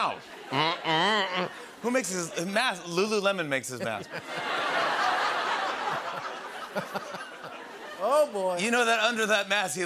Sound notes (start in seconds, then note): 3.7 laughter